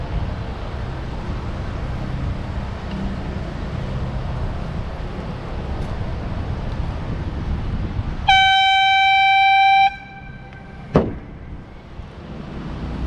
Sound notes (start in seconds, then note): 8.2 airhorn